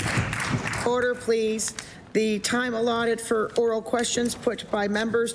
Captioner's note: applause